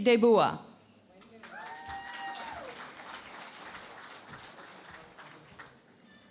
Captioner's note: cheering and Applause